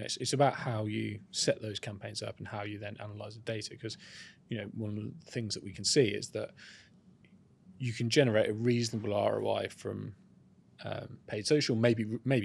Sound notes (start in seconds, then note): none